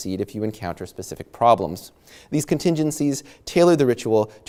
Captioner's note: none